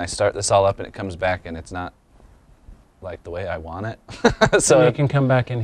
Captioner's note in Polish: śmiech